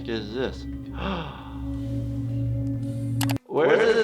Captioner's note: intake of breath